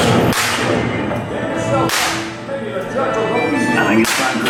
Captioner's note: shooting sounds